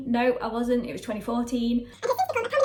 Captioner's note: sped up talking